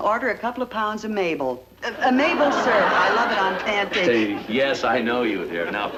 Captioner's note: stuttering